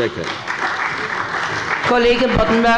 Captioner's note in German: Beifall bei der CDU und dem BÜNDNIS 90/DIE GRÜNEN